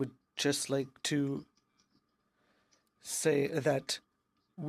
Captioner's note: speaking in french